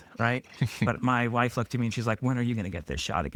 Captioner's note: laughing